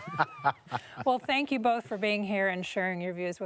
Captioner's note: laughter